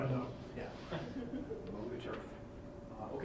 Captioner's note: chuckling